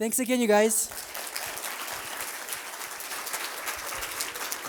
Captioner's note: applause